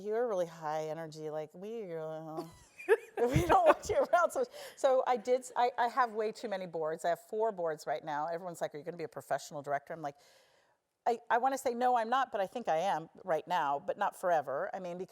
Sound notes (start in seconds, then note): 2.4 laugh